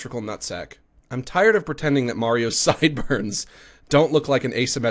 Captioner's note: laughs